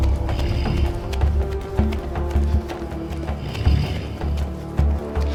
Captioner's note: animal growls